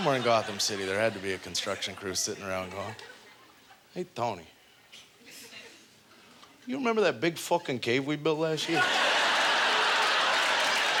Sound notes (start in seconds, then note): 5.5 muted; 8.6 audience laughter